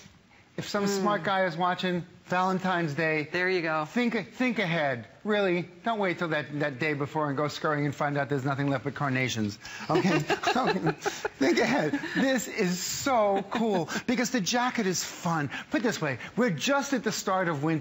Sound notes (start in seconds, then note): 12.4 laughter